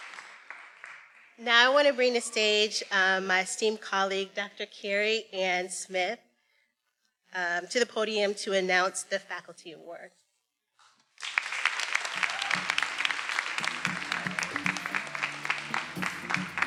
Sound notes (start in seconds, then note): 11.1 everyone applauding; 11.8 attendees cheering; 13.5 upbeat music